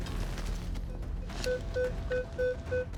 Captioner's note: beeping increases